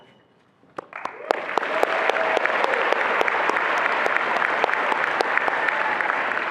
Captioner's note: attendees applauding and cheering